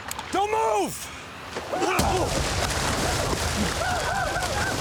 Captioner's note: punch, whooping